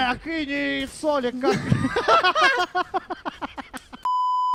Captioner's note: both commentators laugh